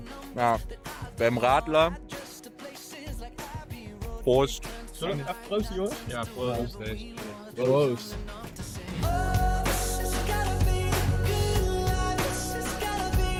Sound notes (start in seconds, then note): 7.2 German